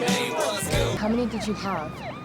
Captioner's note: siren wails